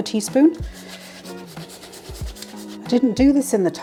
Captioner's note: grater rasping